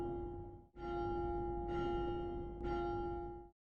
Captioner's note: bell dings